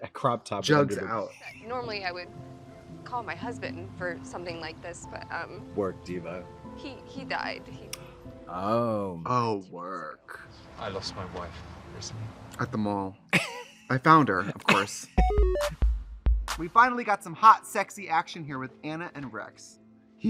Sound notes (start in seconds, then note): 14.4 Katya laughs; 14.6 bright, chirpy music